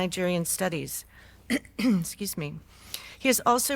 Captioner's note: clears throat